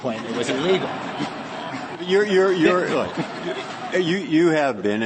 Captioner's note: laughter